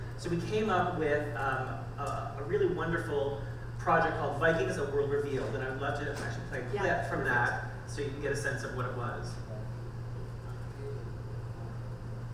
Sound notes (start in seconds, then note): none